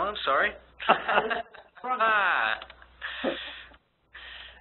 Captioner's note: both laughing